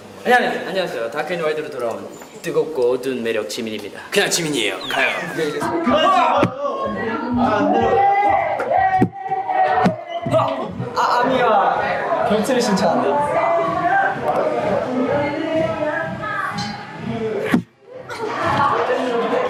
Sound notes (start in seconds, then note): 18.0 giggles